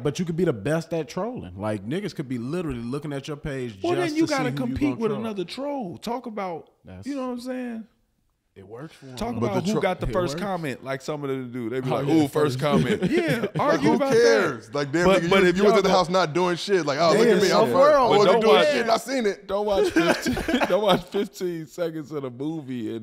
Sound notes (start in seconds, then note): 15.1 laughing; 16.8 group chattering